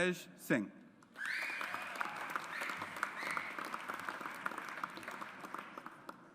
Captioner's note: audience applauds